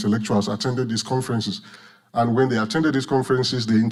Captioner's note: none